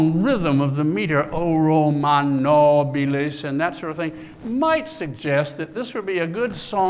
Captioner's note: non-english speech